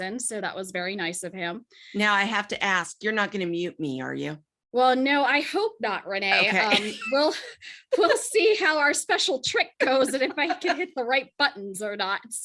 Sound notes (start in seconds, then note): 6.4 laughs